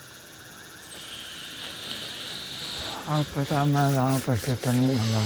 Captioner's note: inhales sharply